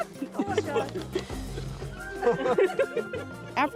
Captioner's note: laughter